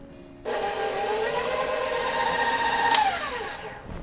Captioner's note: mixer burrs